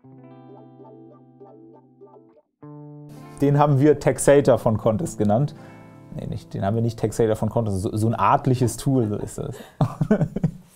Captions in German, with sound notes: Den haben wir Texator von Kontist genannt. Nee, den haben wir nicht Taxator von Kontist genannt. So eine Art Tool….. (lacht).